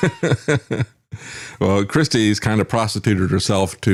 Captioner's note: laughs